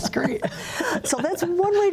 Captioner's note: laughter